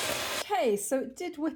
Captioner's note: loud blender